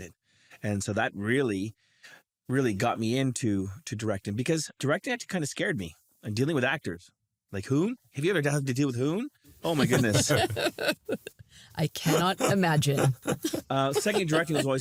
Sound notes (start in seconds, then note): 9.6 laugh; 12.4 laughs